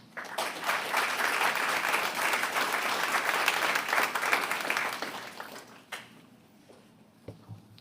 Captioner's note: a pplause